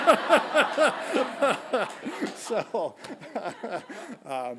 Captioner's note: laughing; audience laughing